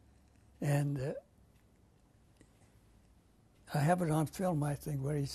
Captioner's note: pauses for 3 seconds